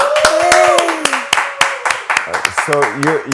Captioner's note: applause